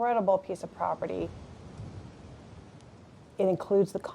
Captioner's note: wind rushes through trees